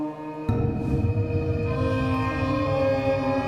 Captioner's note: boom sound